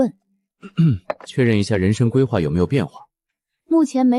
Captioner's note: cough cough